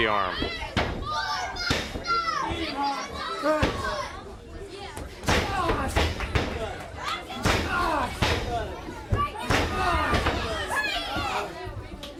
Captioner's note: crowd chatter